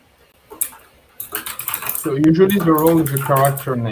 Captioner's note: keyboard clacks